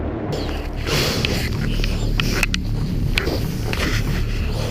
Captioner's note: heavy breathing